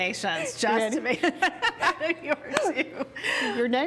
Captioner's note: laughs